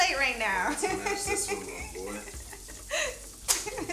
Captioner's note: chuckles